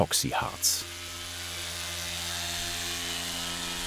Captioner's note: device whirrs